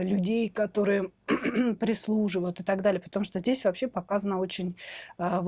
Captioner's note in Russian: кашель; откашливается